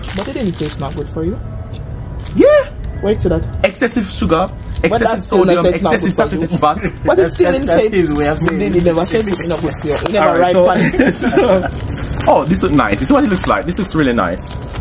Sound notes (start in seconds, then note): 3.8 talking in Patois and English